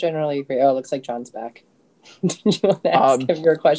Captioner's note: chuckles